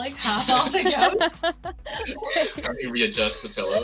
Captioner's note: group laughing